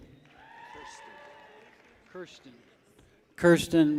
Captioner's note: people cheer